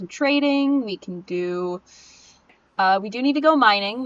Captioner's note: sniff